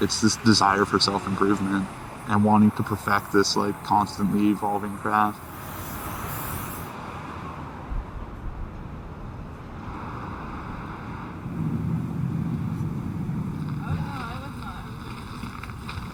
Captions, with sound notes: It's this desire for self-improvement, and wanting to perfect this, like, constantly evolving craft. [Paint spraying] [Cars advancing] [Leaves crunching]